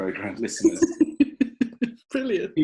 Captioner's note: laughing